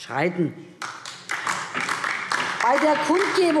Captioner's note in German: Beifall DIE LINKE